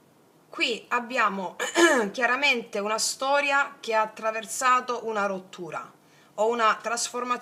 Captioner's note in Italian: schiarire la voce